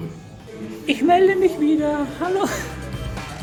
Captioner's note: laughs